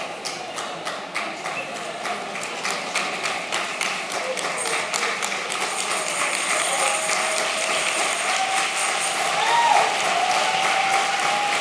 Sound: applause

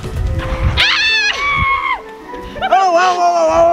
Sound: screams

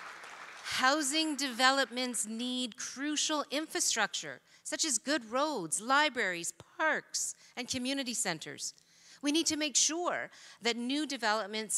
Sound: applause

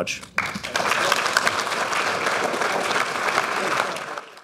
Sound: audience applauding

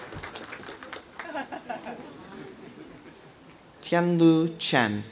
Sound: audience applauding; audience cheering; dean laughs

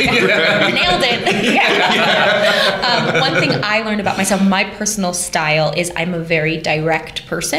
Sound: laughter

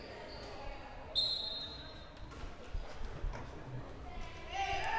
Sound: whistle blowing

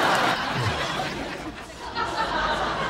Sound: audience laughing; Joey sighing; audience laughing

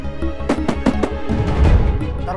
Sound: door knock

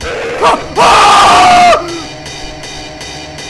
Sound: scream

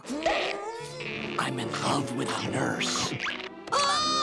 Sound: whispering

